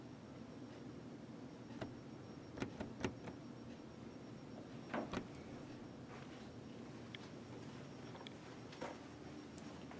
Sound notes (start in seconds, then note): 1.7 door handle noises